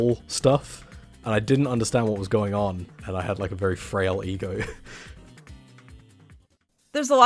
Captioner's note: chuckles